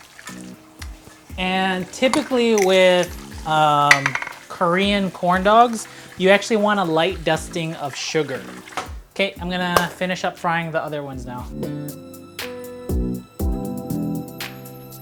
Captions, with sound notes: And typically with Korean corn dogs, you actually want a light dusting of sugar. Okay, I'm gonna (hand clap) finish up frying the other ones now. (slow funky music)